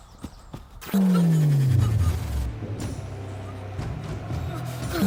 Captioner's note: tractor beam hums